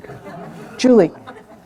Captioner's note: laughter